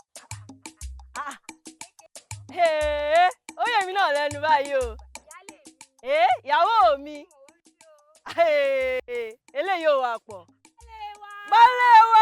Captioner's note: rejoicing